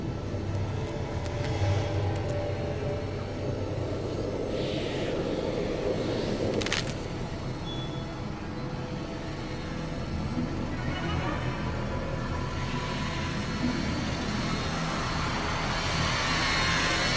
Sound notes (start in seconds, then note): 6.5 joints crackling